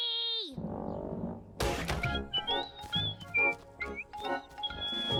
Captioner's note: whistling